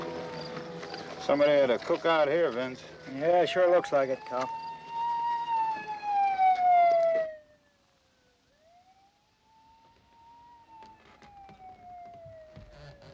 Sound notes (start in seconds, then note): 3.9 siren wailing; 8.0 siren wailing in distance